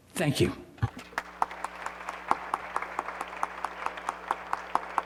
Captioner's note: audience applauding